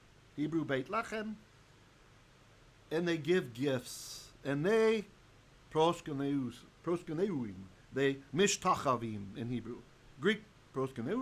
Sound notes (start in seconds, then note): 8.1 Hebrew